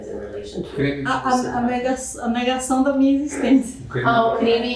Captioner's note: speaking portuguese